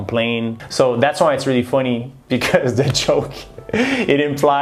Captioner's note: chuckles